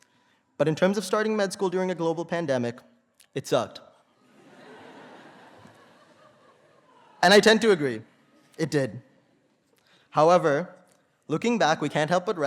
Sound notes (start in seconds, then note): 4.2 laughter